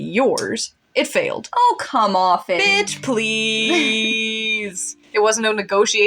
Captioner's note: chuckle